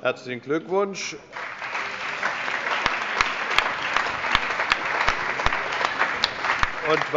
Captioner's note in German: Allgemeiner Beifall